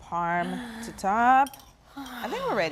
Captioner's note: Bridget gasps